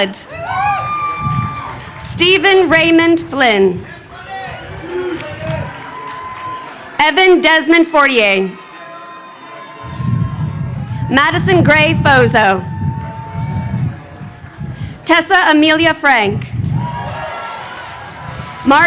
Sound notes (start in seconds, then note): 0.1 crowd cheering; 3.9 crowd chattering; 16.5 crowd cheering